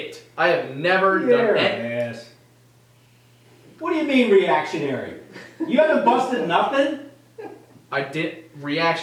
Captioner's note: laughter